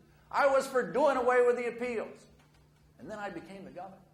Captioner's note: none